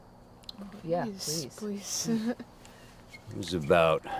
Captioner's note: risitas